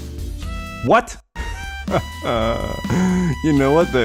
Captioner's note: laughs